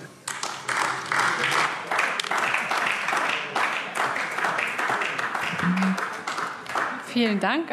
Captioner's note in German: Beifall AfD